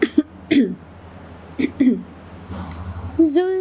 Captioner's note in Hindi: खांसने की आवाज़; गला साफ़ करने की आवाज़